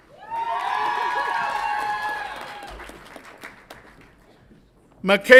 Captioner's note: audience applauds and cheers